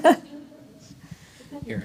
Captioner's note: laughter